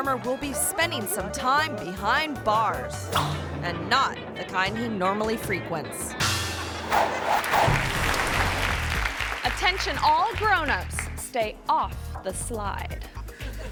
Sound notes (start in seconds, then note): 7.4 audience applauding